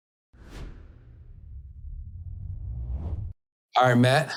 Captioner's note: air whooshing